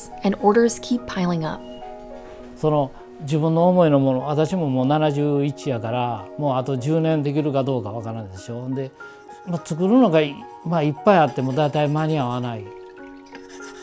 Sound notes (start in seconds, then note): 3.0 speaking foreign language